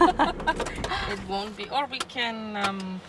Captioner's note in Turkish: kahkaha